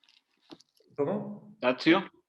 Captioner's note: in Spanish